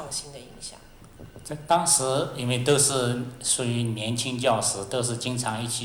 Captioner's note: Mandarin